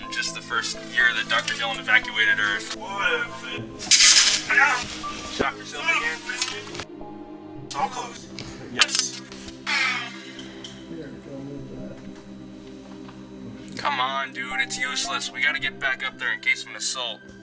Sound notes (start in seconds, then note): 3.8 wire crackle; 9.6 sigh